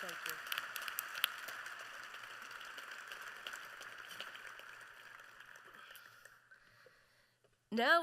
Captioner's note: applause